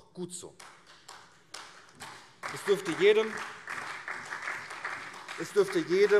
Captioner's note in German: Beifall SPD und vereinzelt CDU